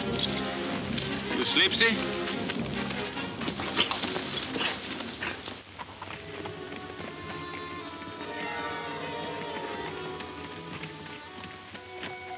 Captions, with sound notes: - You sleepsy'? (horses galloping)